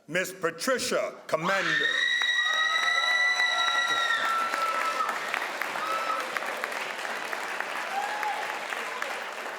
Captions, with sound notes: Ms. Patricia Commander (crowd applauds)